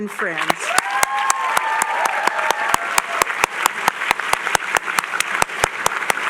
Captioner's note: applause